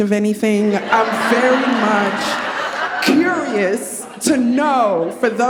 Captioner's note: audience laughing